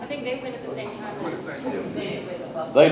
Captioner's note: group chatters